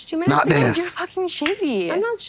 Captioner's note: tongue pop